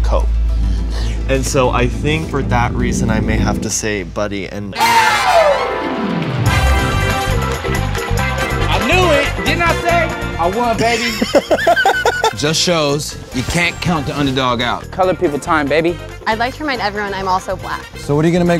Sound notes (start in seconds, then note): 10.8 laugh